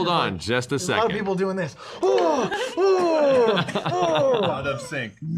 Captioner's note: panicked sounds